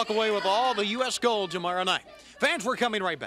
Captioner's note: crowd cheering